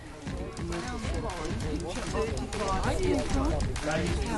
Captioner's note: people chattering